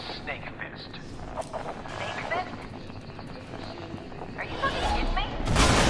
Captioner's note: explosion